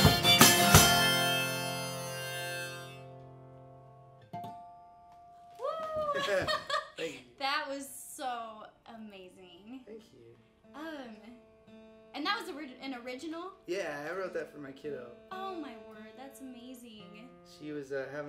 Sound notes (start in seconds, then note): 0.0 upbeat music; 5.9 chuckles